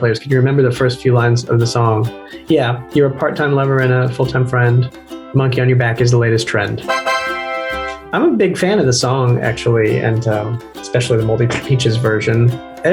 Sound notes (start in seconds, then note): 6.9 computer chiming